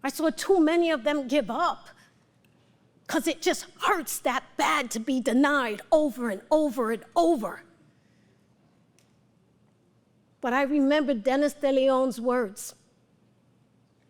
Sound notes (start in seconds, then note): none